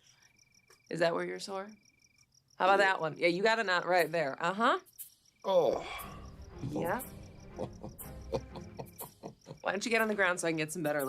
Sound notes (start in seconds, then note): 5.5 Radovan moans; 7.5 Radovan laughs